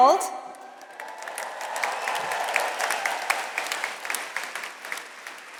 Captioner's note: audience applauds